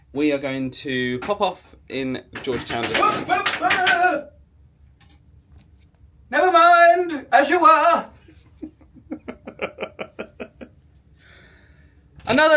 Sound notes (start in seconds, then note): 2.4 clattering and exclaiming; 8.2 laughs